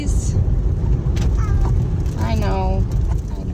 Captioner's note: meow